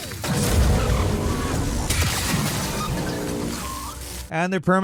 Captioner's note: electrical crackling and explosions